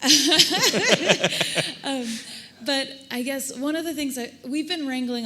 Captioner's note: laughing